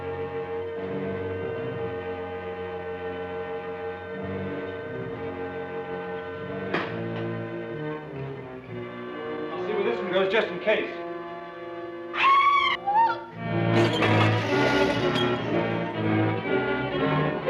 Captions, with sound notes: (sinister orchestral music) - I'll check the case. (screaming) - Look.